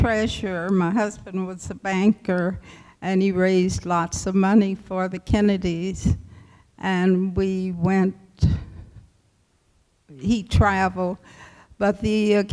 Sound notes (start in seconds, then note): none